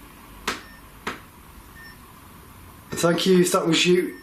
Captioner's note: tapping